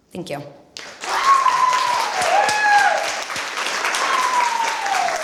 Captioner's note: applause